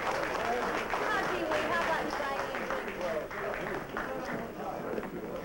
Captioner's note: applause; chatter